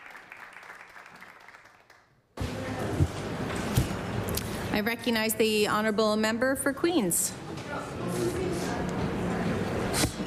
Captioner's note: applause